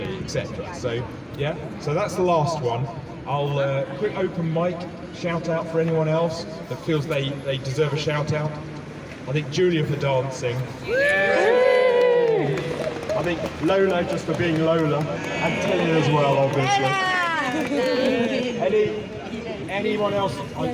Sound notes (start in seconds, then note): 11.8 applause; 16.2 applause